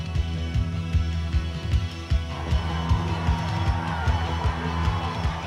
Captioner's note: crowd cheering